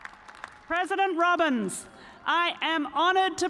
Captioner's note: cheers and applause